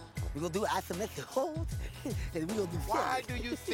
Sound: lisp

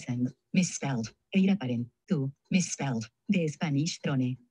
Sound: speaking in foreign language

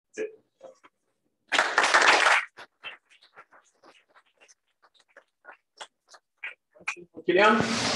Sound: applause

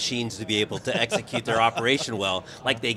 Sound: laughing

